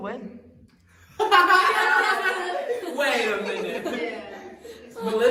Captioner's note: laughter